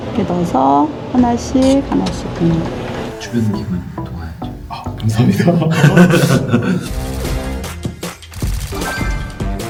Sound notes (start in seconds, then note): 5.5 laughter; 7.0 cheerful music